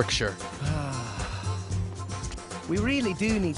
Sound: sigh

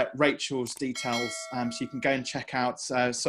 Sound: bell ringing

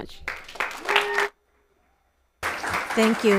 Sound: people cheer; audience applauds

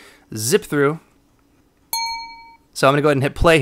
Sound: ding

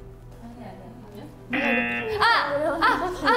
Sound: buzzer

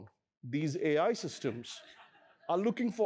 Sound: laughter

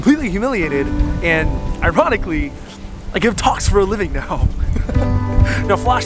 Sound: laughs

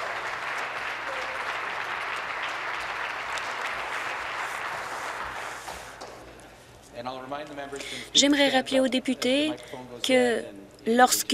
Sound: applause

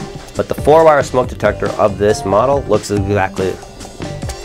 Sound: slurring

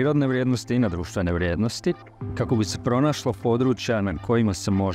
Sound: speaks Croatian

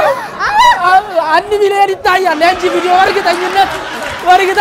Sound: laughter and applause

